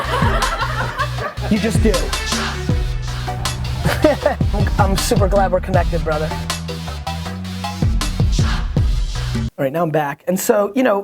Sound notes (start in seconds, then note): 0.0 laughter; 3.2 laughs